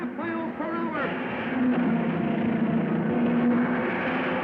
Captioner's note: cars revving